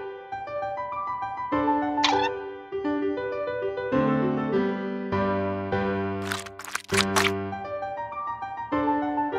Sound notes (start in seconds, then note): 2.0 cartoony plucking sound; 6.2 gooey sound